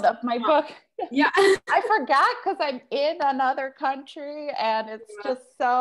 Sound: laughs

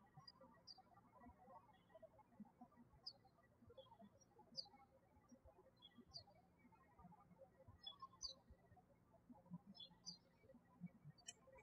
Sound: birds chirping

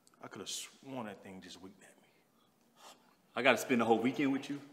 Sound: sighs

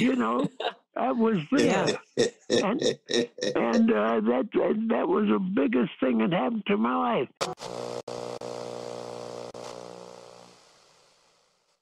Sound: Static

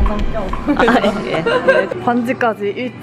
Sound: laughs

